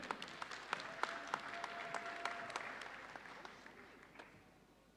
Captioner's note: audience applauding